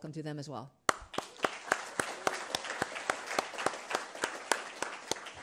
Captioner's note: attendees applauding